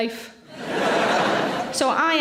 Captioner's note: audience laughs